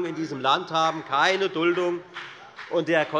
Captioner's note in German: Beifall bei der FDP